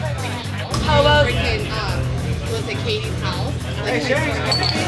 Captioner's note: chatter